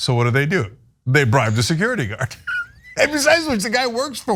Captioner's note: laugh